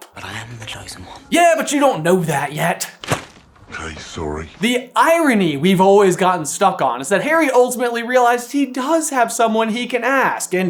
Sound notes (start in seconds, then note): 3.0 thwap!